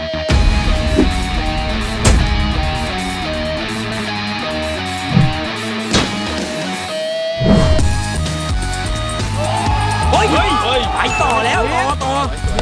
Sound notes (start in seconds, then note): 0.0 stab; 4.3 rock music playing; 5.1 stab; 9.1 cheering